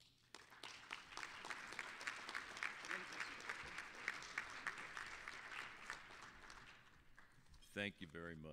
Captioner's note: applause